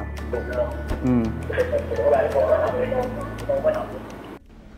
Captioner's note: students discussing